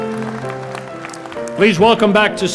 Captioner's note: applause